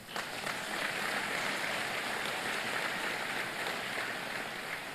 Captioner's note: applause